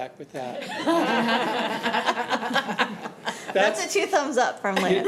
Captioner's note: audience laughing